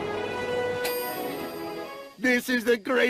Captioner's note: ding